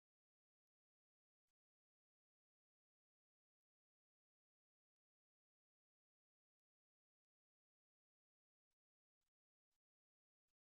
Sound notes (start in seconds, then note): none